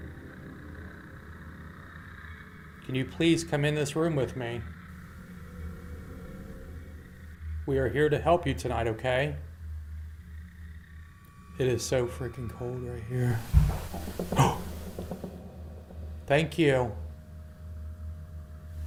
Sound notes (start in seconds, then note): 13.4 bang